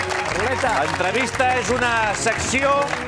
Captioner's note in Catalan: aplaudiments